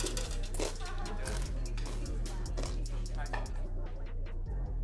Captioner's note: people chattering